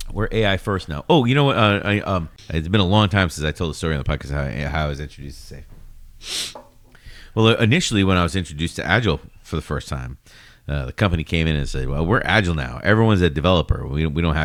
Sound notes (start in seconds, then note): 0.0 uh; 10.6 uh